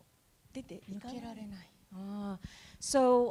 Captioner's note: speaking japanese